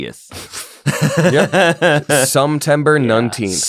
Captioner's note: laughter